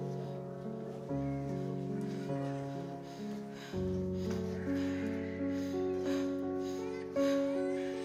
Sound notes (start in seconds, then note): 2.5 baby cries; 2.9 Abby pants